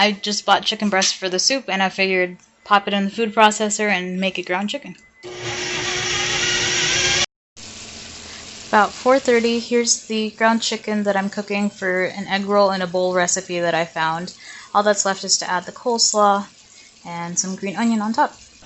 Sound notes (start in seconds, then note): 5.2 whirring; 7.6 sizzle